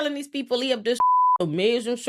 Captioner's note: beep